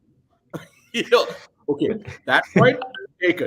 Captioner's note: laughs